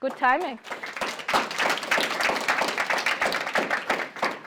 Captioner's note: applause